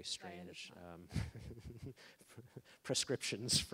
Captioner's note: laughing